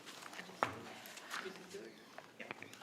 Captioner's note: indistinct quiet conversations